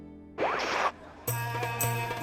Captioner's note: chuckling; screen static; mysterious music